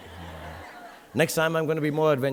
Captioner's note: audience laughing